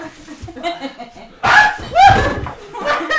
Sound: Ben screams

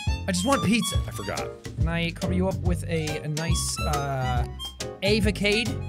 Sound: none

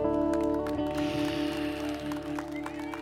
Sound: clapping

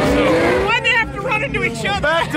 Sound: laughs

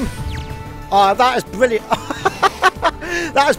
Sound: laughter

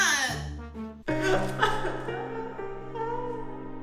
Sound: sobbing

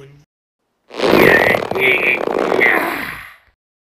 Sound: grunting

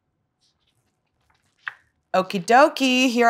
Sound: book page turning

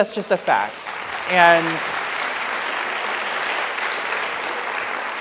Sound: audience applauds

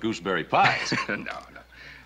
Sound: Ben laughs

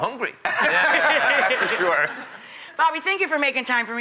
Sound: laughter

